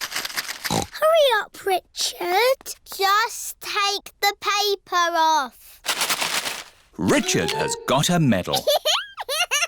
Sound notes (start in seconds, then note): 0.7 snorts